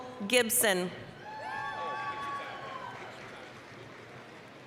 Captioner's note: applause, cheering